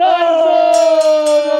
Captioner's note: bell ringing